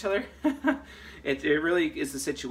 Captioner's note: laughs